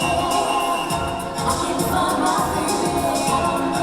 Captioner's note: whistle blowing; upbeat music